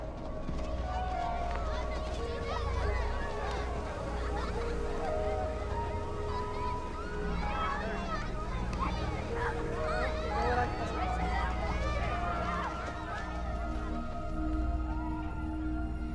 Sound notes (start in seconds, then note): 2.6 children chattering and laughing